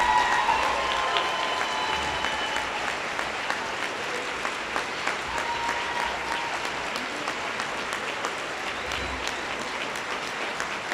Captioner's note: applause